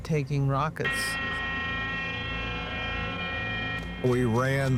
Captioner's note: siren blaring